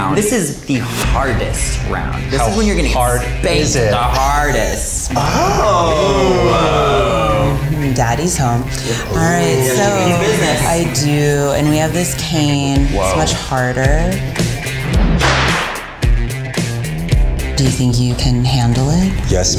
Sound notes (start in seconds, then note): 5.1 boys exclaiming; 14.3 upbeat music